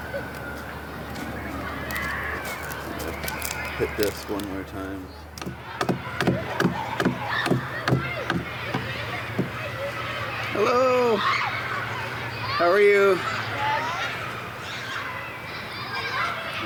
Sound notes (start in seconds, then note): 5.4 tool banging; 6.1 children playing continues